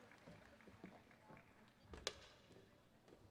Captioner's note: applause